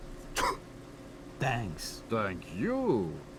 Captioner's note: spits into food